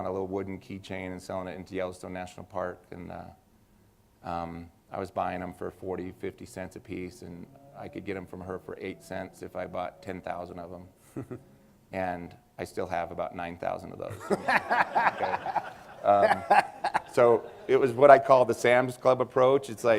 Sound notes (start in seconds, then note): 11.0 laughter